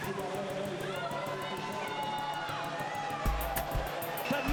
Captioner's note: cheering